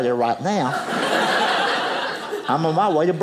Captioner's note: audience laughing